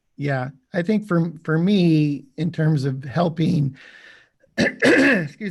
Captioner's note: coughs